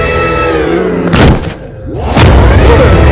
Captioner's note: Thud on the floor